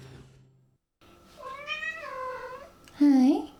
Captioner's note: insistent cat meow off screen